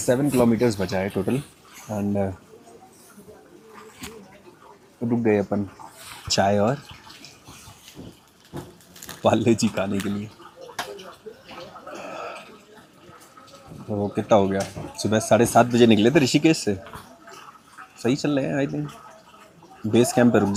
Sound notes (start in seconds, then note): 10.9 chuckles